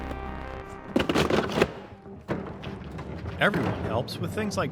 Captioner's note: container clattering